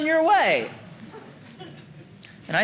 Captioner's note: audience laughing